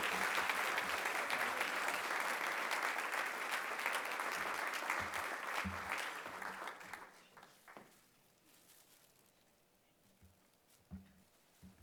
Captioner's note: applause